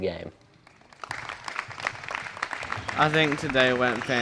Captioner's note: audience claps